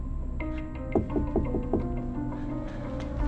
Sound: knock on the door

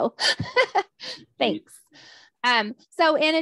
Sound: laughs

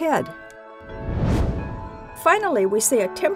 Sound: whoosh

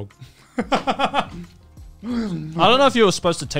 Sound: laughs

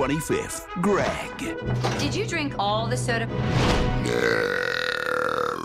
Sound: burping the word "no"

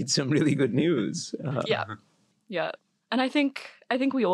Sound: laugh

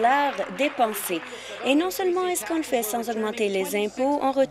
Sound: applause

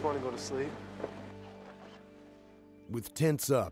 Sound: voiceover

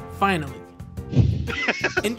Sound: laughter

